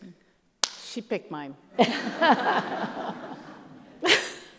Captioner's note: audience laughs